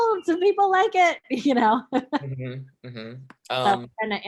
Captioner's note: chuckling